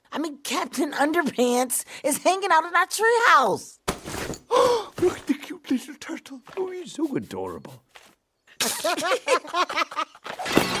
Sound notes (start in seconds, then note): 4.5 gasp; 8.5 laughter